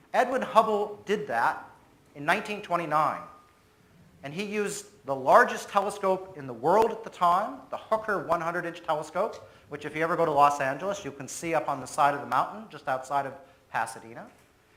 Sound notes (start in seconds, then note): none